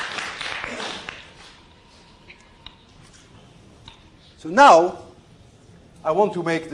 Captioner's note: applause